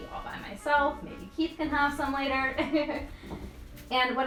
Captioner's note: laughs